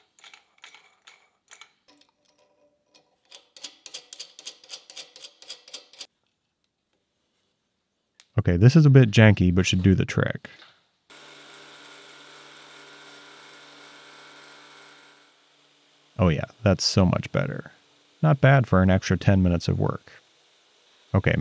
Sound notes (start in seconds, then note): 0.0 nut threading; 3.7 parts threading; 11.1 tool grinding